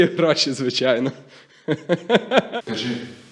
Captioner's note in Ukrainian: сміється